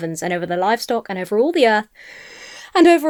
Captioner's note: inhales sharply